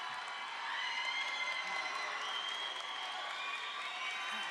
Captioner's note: crowd applauds